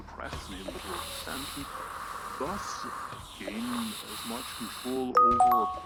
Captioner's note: sizzle; instant message beep